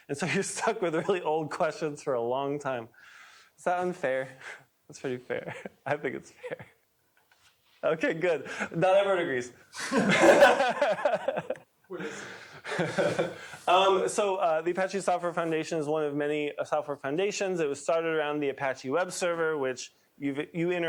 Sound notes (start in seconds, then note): 9.7 laughter